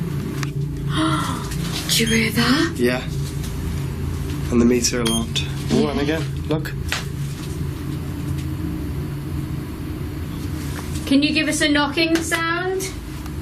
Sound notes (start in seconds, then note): 1.4 gasping